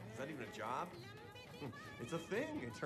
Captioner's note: chuckles